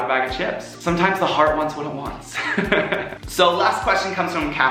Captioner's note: laughs